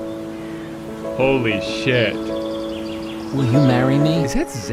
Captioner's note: birds chirping